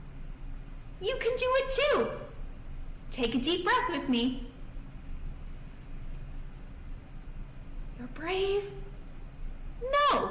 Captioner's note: takes deep breath, then nods